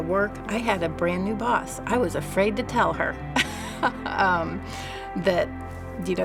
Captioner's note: laughs